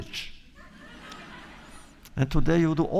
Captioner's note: laughter